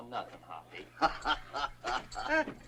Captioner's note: guffaws